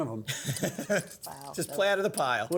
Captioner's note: laughs